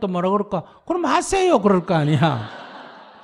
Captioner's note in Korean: 청중 웃음